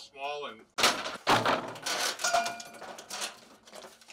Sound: debris clinking

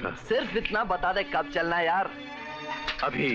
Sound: snaps finger

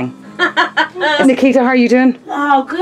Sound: laughing

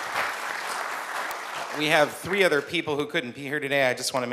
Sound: applause

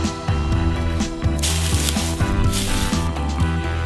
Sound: crushing leaves

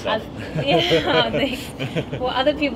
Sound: laughter

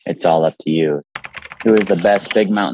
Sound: keyboard clicking

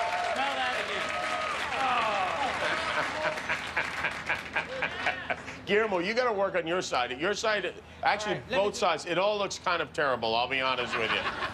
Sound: cheers and applause

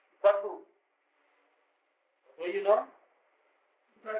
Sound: Hindi

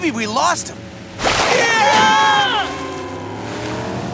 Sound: screaming

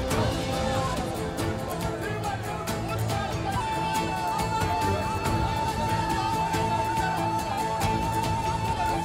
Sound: Müzik - Vurmalılar ve yaylılar; Kalabalık bağrışma sesleri

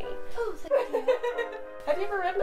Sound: laughs

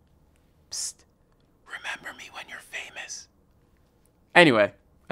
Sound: whispering

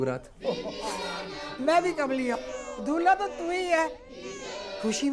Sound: giggling

